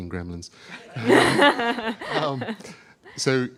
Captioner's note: laughter